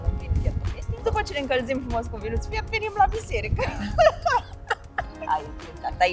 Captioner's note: laughing